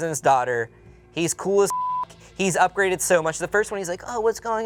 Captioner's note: beep